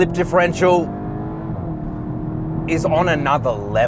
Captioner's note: car engine accelerating